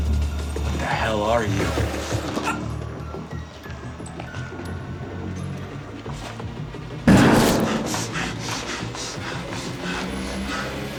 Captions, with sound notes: - What the hell are you? (gun firing)